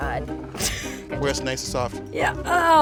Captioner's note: chuckling